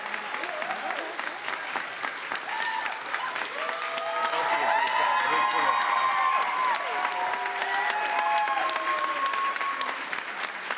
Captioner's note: cheers and applause